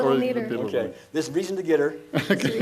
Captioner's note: laughs